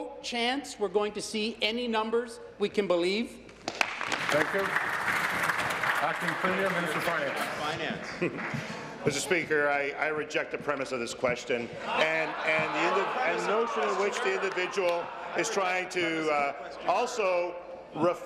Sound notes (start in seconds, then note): 7.0 applause